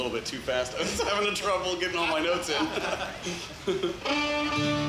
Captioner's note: laughs; ozarks fiddle music